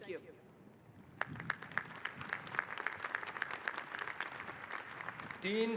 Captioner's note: applause